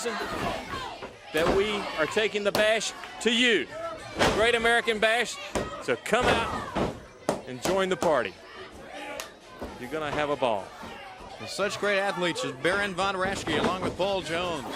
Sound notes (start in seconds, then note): 9.1 crowd chatter